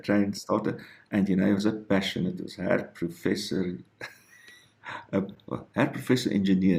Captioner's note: giggles